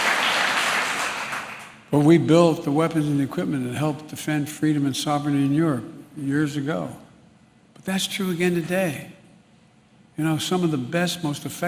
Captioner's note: applause